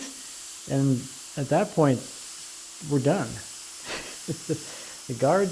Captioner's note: chuckles